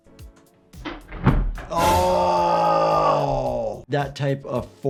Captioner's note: skateboard clatters